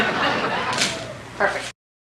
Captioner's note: more laughter; sound of camera click